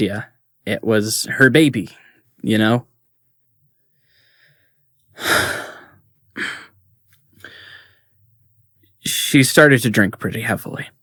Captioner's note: sighs, a beat